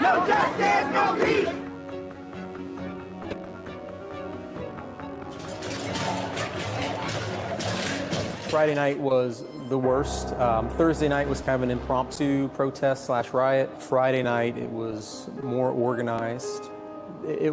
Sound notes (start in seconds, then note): 0.0 crowd; 2.0 suspenseful music; 5.2 objects clanging